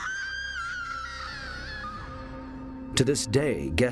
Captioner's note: scream